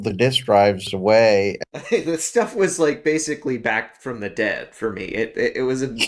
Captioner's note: laugh